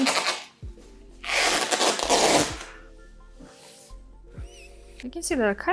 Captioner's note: duct tape crackling